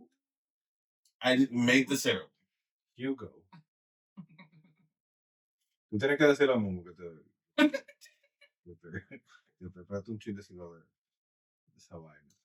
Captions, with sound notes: I made the syrup. Ugo. (Speaking In Foreign Language) This Hawaii.